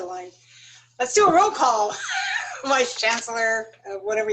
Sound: laughter

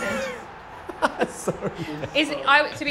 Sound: laughter; chuckle

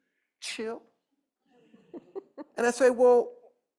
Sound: laughter

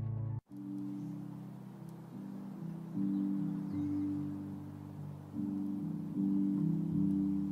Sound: uplifting instrumental music; birds chirping

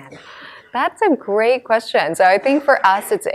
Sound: laughing

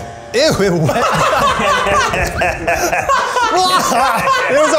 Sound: laughter

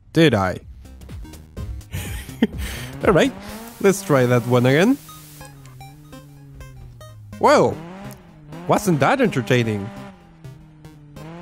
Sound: laughs

